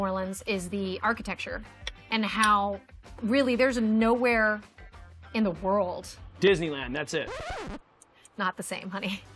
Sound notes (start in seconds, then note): 7.1 record scratch